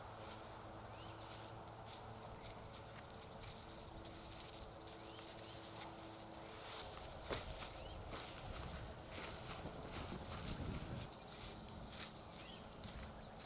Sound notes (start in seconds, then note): 0.8 traffic roaring softly